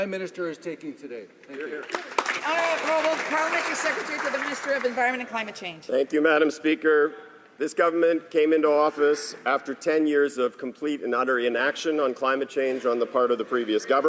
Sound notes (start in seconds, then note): 4.8 some Applause